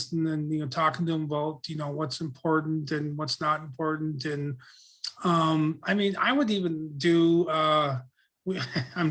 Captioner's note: laughs